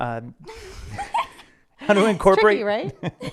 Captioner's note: laughing